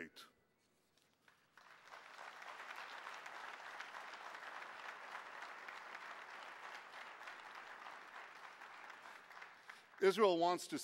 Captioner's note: clapping